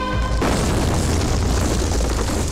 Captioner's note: Explosion